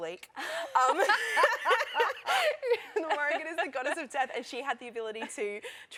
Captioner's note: laughter